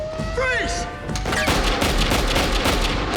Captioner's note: machinery whirring; gunshots